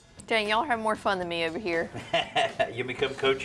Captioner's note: laughs